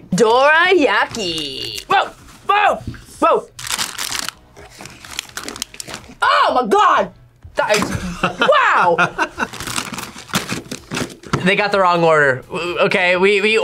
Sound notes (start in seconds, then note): 7.8 laughs